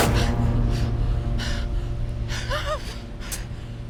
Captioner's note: panting, whimpering